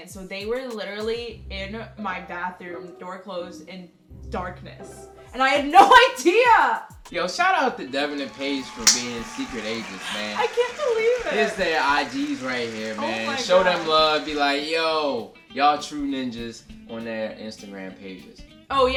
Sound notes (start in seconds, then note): 10.4 applause